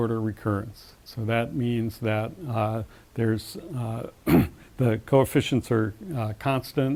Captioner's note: cough